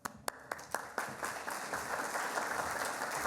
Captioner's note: applauding